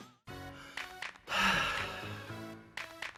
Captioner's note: sighs